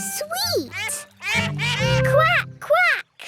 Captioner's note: all laugh